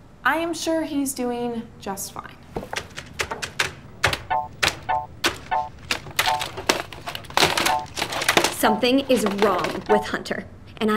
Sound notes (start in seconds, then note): 2.6 keyboard clacking